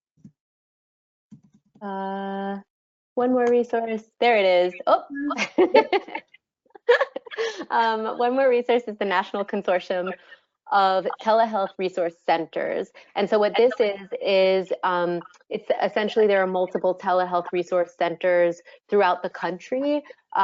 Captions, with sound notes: One more resource. There it is. Oh. (laughs) One more resource is the National Consortium of Telehealth Resource Centers. And so, what this is, is it's essentially, there are multiple telehealth resource centers throughout the country.